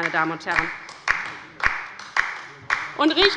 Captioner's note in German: Beifall bei der LINKEN